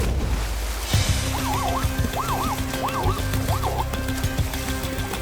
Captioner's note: zebra whimpering